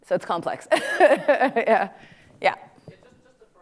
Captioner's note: laughs